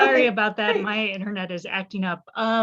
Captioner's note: laughs